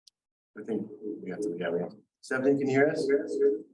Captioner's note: audio warping